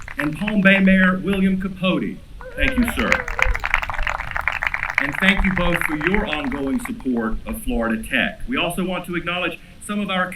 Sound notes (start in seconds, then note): 2.4 applause